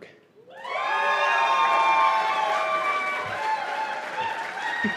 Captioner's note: cheers and applause